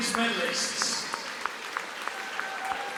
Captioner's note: applause